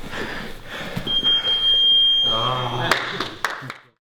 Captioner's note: beep